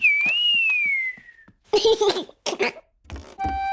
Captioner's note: whistling and giggling